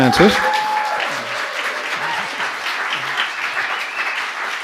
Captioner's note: cheering, applause